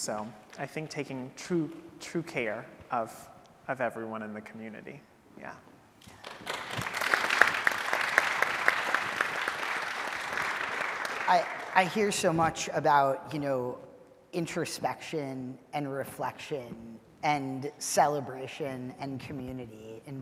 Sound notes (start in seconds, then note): 6.1 audience applauding